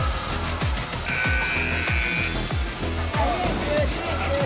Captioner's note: buzzer buzzing